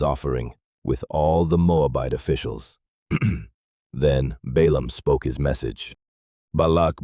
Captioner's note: clears throat